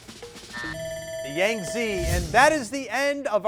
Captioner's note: buzzer sounding